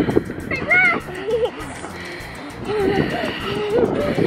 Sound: yelling and giggling

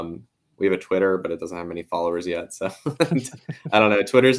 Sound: laughs

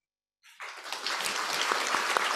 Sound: applause

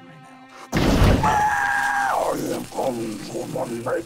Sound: exploding and screaming; growling evilly

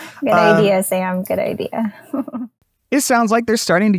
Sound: chuckles

